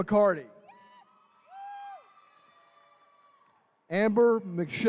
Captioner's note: attendees cheering